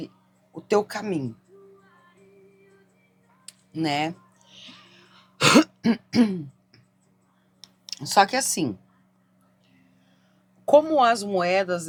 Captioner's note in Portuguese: tosse; limpando a garganta